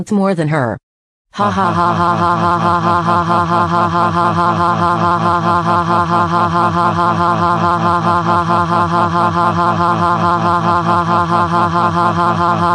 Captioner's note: laughs